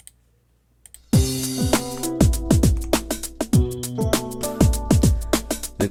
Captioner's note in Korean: 컨텐츠 재생 소리; 컨텐츠 재생 소리